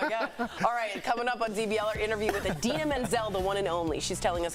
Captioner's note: laughter